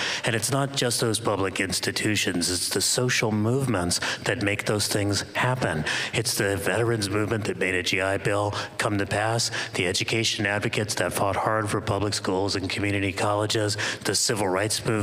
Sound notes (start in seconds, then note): none